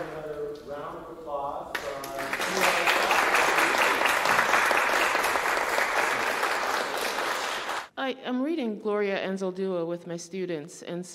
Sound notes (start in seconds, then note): 1.7 applause